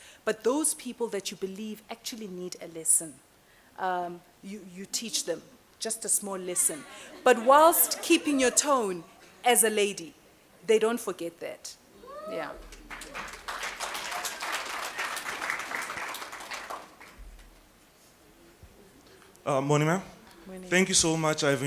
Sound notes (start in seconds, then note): 15.4 applause